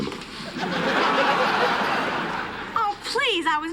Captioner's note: laughter